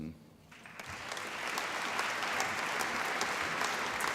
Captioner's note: applause